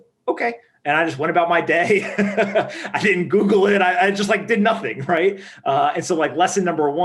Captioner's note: laughing